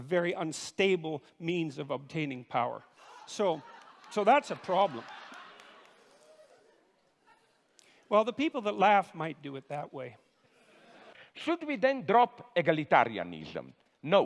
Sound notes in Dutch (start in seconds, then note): 2.9 Publiek lacht